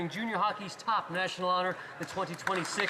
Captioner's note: some Applause